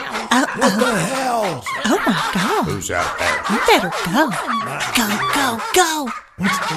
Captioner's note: barking